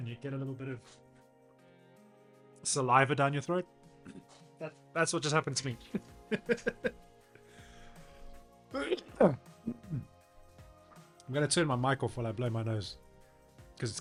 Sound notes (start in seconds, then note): 6.3 laughs